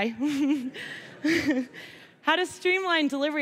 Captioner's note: laugh